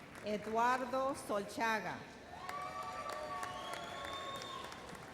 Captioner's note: audience cheers